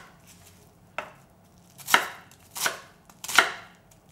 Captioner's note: knife tapping